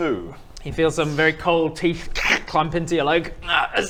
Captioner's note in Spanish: mastica